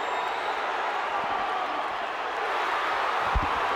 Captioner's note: crowd cheering; crowd chatter